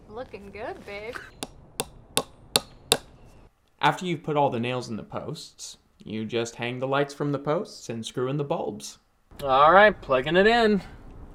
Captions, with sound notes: - Looking good babe. (hammering) - After you've put all the nails in the posts, you just hang the lights from the posts and screw in the bulbs. Alright, plugging it in!